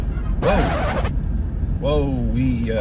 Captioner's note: record scratch